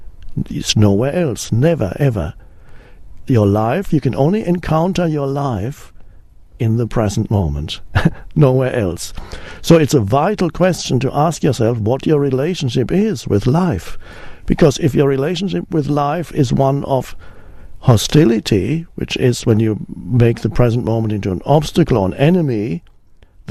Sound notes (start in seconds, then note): 7.8 chuckles